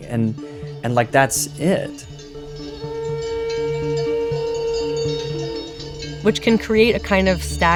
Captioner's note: soundbite of horns and cowbells